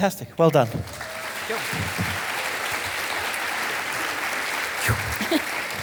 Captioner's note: audience applauding